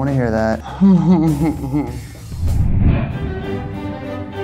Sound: laughs; classical music

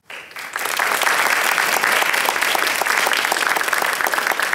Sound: applause

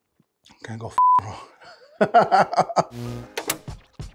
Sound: laughs

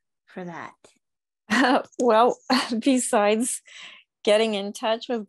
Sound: chuckles

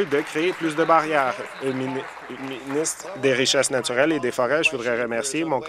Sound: applause

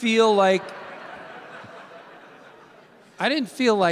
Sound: audience laughing

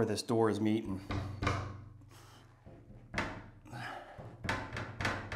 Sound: tapping on glass

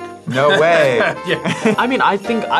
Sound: laughs

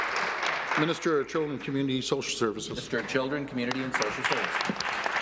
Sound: applause

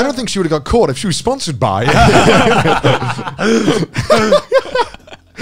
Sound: laughs

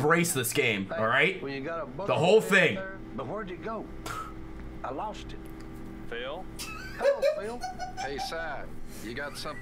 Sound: cackling

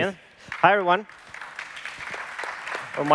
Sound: applause

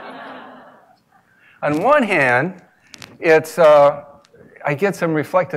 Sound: laugh

